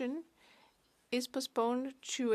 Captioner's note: speaking French